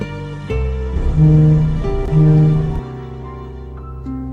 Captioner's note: honk